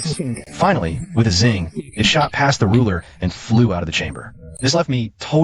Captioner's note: zing